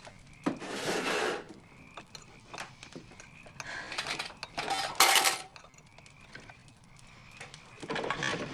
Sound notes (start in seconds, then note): 4.0 clatter